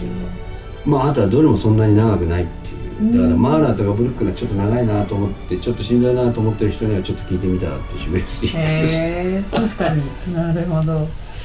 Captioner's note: laughs